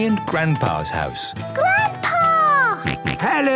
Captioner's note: George snorts